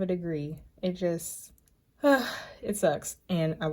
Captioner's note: sighs